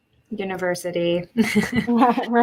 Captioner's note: chuckle